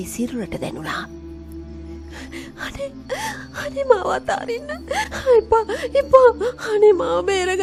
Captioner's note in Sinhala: අඬන